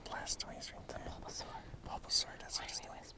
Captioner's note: whispering